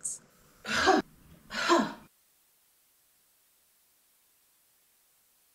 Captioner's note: 'Ha' sounds